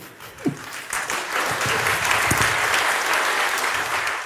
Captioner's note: applause